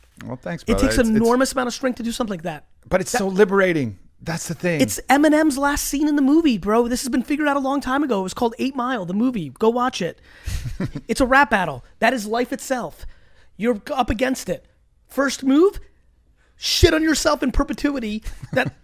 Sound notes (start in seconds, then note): 10.5 laughs